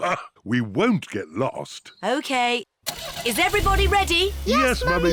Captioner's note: laughs